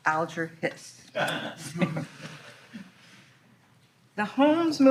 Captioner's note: all laughing